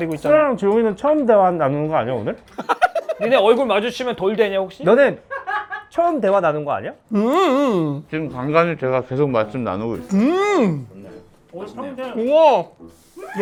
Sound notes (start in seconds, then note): 7.1 a denying hmm